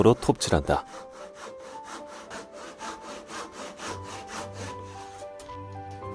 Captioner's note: sawing sound